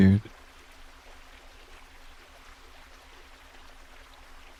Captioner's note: gushing water